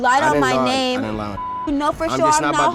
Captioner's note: beep